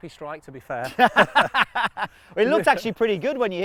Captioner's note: both laughing